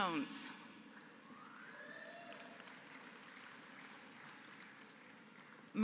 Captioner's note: applause